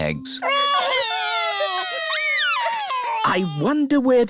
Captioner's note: wailing